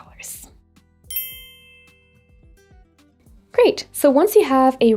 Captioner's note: twinkle tone